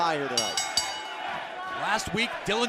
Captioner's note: bell ringing